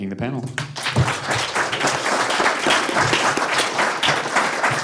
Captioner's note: audience applauding